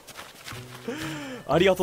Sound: inhales

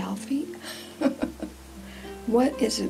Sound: laughs

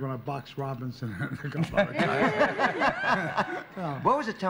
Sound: laughter

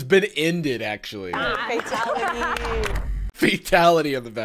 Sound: contestants applauding

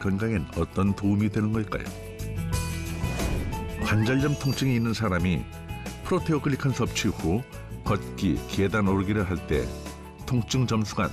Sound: voiceover

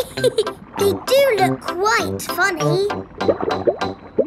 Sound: laughs

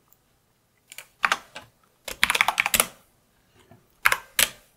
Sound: typing

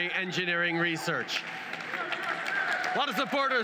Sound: cheers & applause

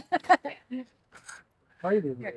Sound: laughs

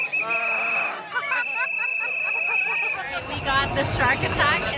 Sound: bartender blows whistle; laughs

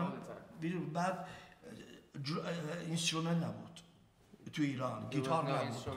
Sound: speaking in farsi

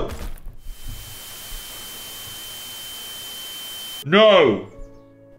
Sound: television static

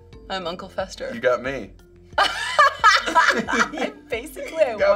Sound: both laugh

